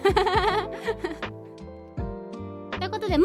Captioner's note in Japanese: 笑い